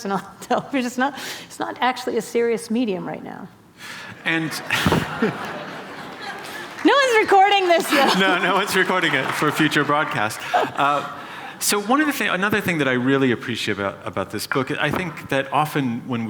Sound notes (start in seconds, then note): 4.3 laughter